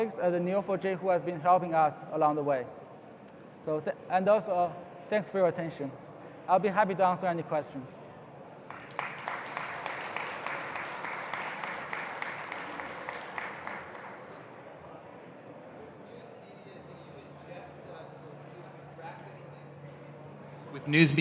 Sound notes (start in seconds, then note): 8.6 applause